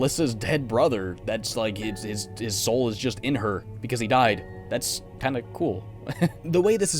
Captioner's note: nervous laugh